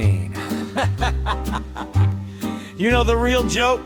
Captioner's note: static, then Tod laughs softly